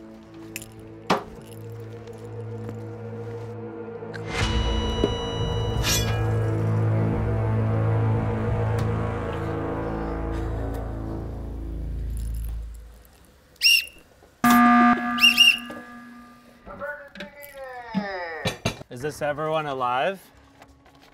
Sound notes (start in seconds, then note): 4.3 sustained beep; 14.4 loud buzzer; 14.4 whistle blaring